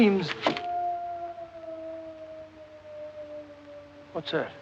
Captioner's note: howling